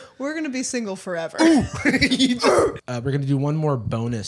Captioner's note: laughs